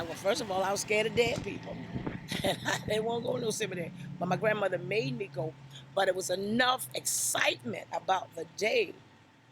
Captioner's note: laughs